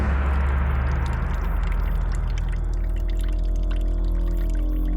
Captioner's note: dramatic musical score; water trickles